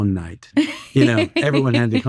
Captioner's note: laughing